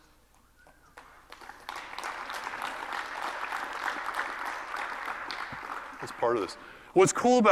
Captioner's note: applause